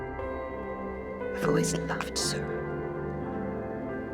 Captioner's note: voiceover